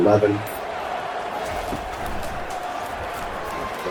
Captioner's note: crowd Noises